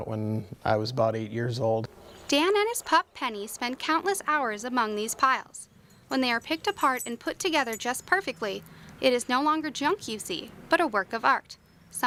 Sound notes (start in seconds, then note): 2.3 voiceover